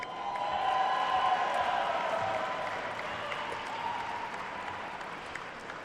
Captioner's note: attendees cheering and applauding